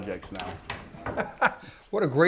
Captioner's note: laughing